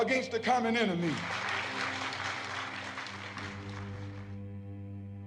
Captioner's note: applause